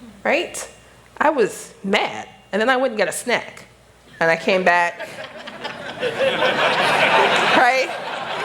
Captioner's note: laughter